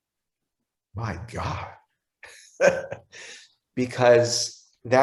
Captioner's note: giggles